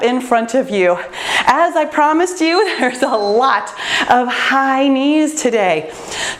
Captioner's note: timer beeps